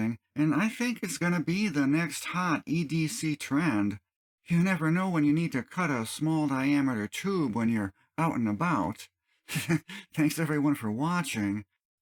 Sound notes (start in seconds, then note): 9.5 chuckles